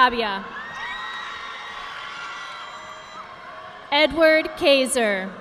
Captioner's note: audience applauding